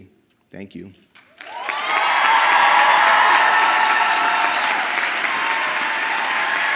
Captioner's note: audience applauding and cheering